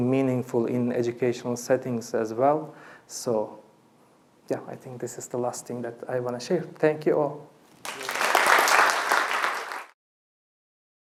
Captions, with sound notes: meaningful in educational settings, as well. So, I think this is the last thing that I want to share. Thank you all. [APPLAUSE]